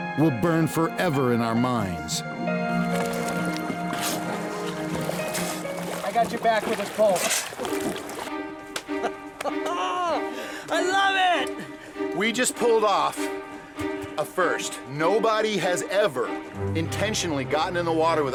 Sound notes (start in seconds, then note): 5.2 splashes; 8.9 laughing